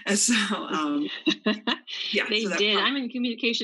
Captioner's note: laughs